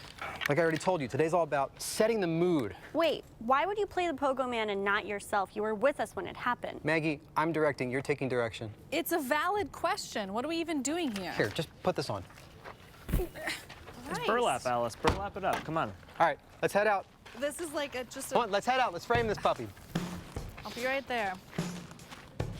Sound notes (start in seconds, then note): 13.1 poof